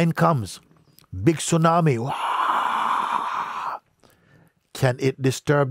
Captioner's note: imitiert Tsunami Geräusch